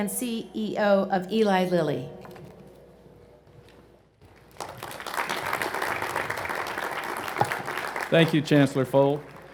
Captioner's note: applause